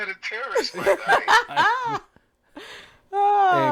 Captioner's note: laughing